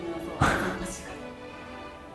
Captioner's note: scoff